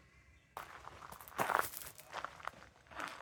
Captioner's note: footsteps on gravel